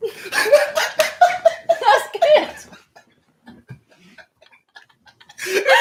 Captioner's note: laughter